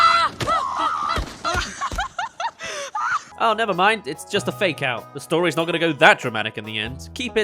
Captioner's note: laughs